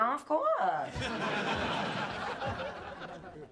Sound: laughter

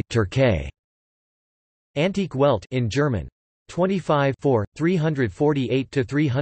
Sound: in German

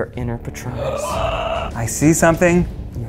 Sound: gasps

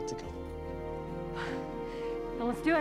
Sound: mary sighs

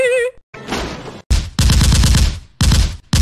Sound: assault Rifle Fires

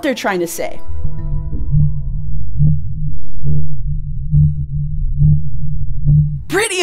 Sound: blue whale song

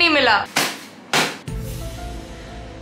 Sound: aggressively slaps

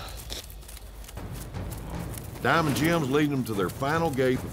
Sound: hoofbeats

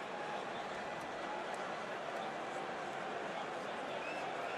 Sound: indistinct chatter

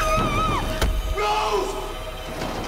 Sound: thud

